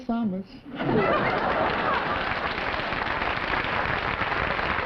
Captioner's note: laughter